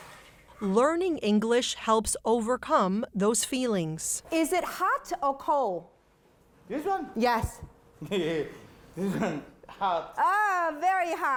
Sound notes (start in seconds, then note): 9.0 chuckles